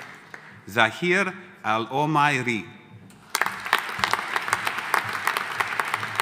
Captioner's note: audience applauding